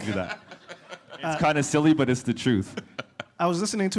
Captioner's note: laughter